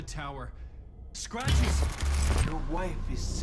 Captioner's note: gun fires